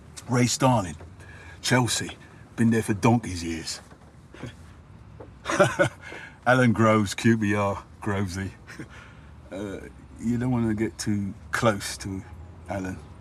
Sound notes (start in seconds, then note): 5.4 he laughs